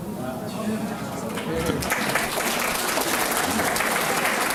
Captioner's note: applause